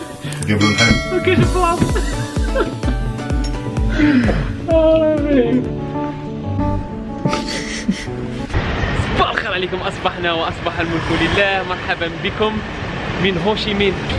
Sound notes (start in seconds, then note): 1.8 laughter